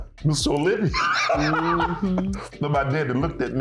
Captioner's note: laughing